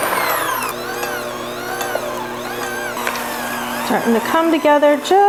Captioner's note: handmixer whirs